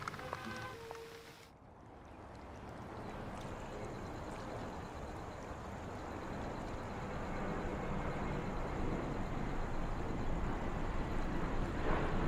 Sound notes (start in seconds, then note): 7.5 ocean ambience